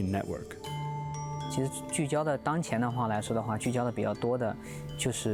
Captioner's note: speaking chinese